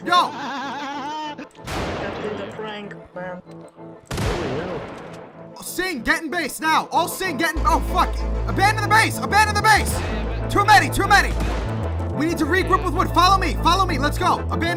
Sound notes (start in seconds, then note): 0.0 maniacal laughter; 4.0 gunshots; 11.2 gunshots